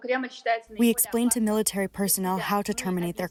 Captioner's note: through translator